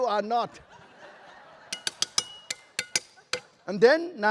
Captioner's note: laughter